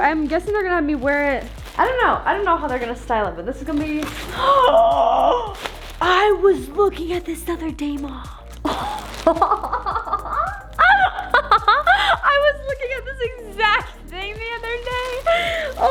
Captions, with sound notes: I'm guessing they're going to have me wear it... I don't know. I don't know how they're going to style it. This is going to be- (cut off with a gasp) I was looking at this the other day, mom! (excited laughter) I was looking at this exact thing the other day.